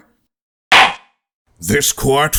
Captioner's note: gavel slams!